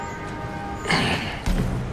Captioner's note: clears throat